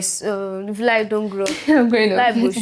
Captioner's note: laughs